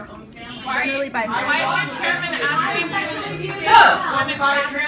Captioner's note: incoherent yelling